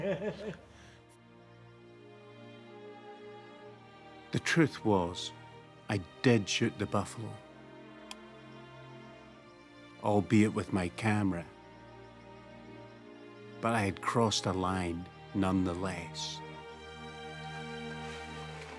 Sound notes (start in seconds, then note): 0.0 laughs; 1.5 somber classical music; 8.0 switch clicks